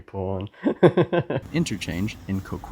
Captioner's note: cheeky giggle